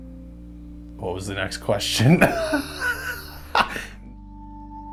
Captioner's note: laughs